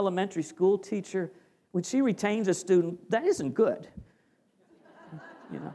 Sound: laughter

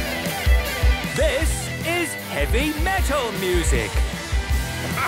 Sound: shouting

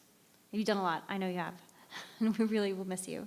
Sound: laughs

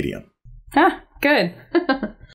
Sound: chuckles

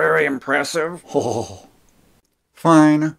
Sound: chuckling

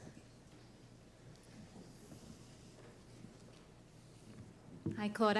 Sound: no speaking

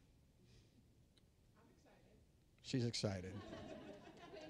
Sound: audience laughing

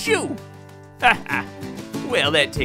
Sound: laughing

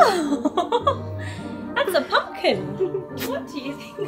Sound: laughs

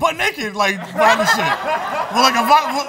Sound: laughter

